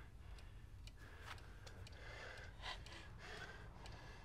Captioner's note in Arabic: دقات الساعة